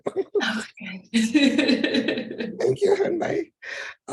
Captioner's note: laughs